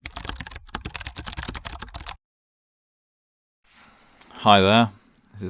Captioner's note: typing